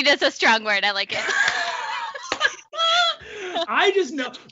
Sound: both laughing

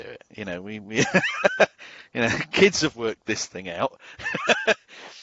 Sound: laughs

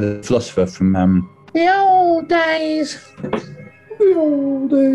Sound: nasally

